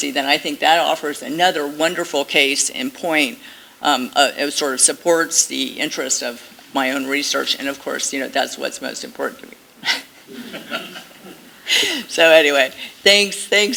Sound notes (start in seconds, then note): 10.2 laughter